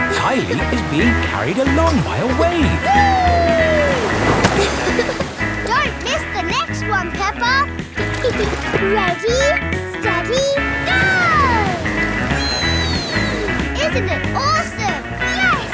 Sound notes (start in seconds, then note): 7.9 giggles